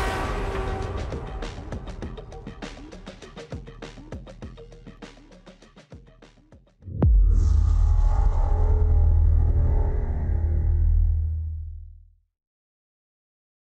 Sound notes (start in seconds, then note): 6.9 transition sound